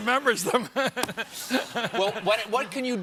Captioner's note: laughter